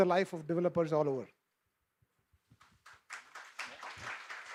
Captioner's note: applause